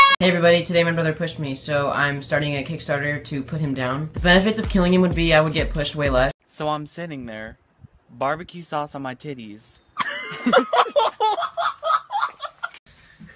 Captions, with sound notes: Hey, everybody, today my brother pushed me, so I'm starting a Kickstarter to put him down. The benefits of killing him would be I would get pushed way less. So I'm sitting there barbecue sauce on my titties. [laughing]